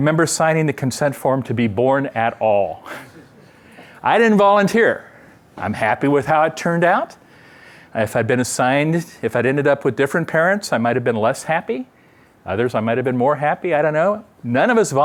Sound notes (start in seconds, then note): 2.9 laughter